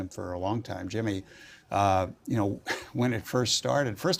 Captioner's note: laugh